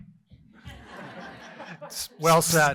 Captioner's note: laughter